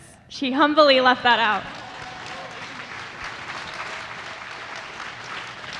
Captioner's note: audience applauding